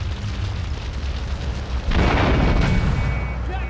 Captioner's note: car engine roaring; gun firing; car engine roaring